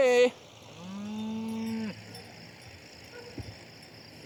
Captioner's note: cows mooing